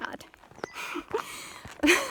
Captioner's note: laughs!